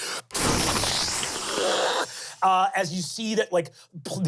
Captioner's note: imitates water spraying